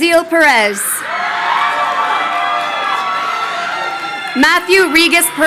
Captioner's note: crowd cheering